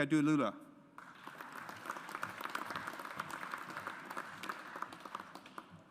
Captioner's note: audience applauds